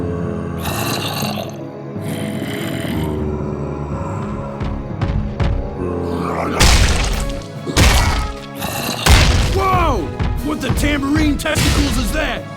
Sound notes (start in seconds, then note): 5.7 growls and yells